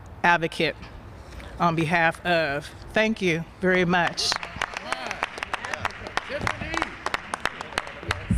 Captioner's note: applause